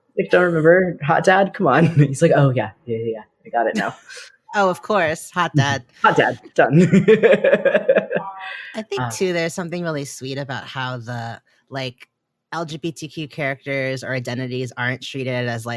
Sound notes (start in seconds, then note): 5.5 laughs